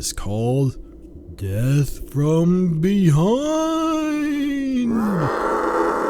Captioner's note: in an exaggerated spooky voice